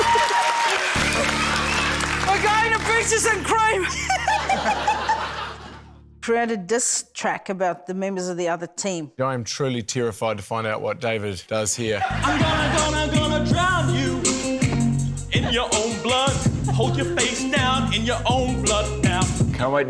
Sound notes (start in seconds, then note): 3.8 laughter